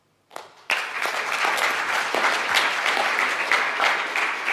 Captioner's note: audience applauds